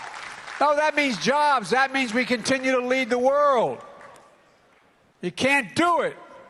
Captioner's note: applause